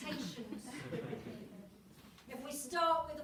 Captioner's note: audience chuckles warmly